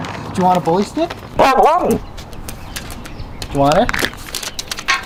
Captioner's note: Laska barks; laughs